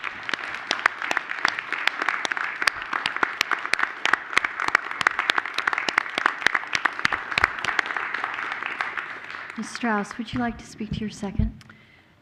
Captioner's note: applause